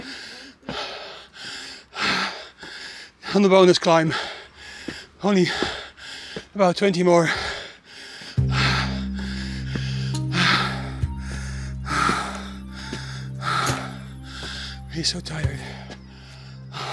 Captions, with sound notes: (breathes heavily) On the bonus climb. Only about 20 more. (breathes heavily) He's so tired.